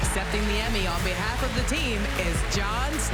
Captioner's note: applause